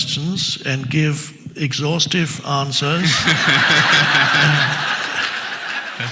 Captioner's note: audience laughs